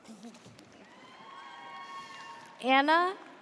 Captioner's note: audience cheers